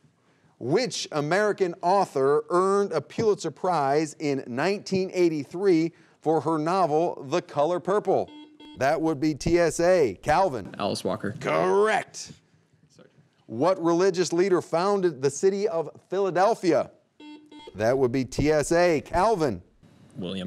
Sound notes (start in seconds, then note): 8.2 buzzer beeping; 17.2 buzzer beeping